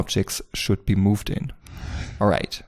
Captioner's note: air whooshing